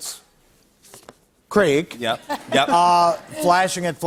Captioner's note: laughter